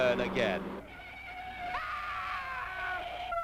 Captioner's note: tires screeching; man screaming; sirens wailing